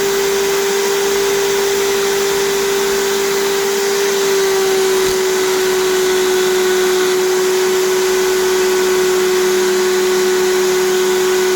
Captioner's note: grinding sound